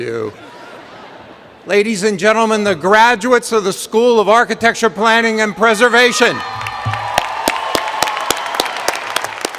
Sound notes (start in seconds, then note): 1.0 laughter; 9.3 cheers and Applause